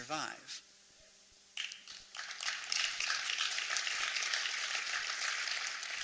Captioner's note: applause